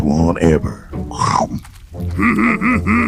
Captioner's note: crunching